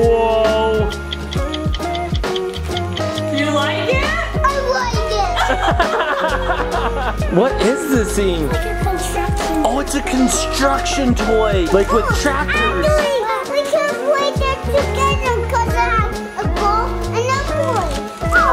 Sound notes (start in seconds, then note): 0.8 clock ticking; 5.2 parents laughing